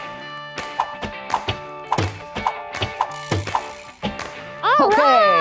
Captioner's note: swooshing as bean bags are thrown